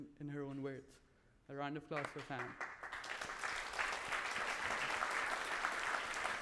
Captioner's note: audience applauds